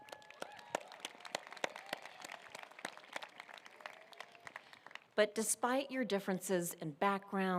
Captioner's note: applause